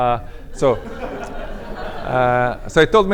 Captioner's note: laughter